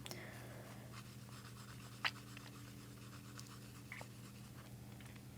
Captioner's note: sips